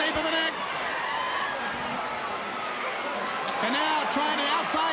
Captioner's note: crowd cheering